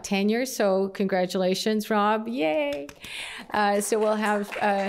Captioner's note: applause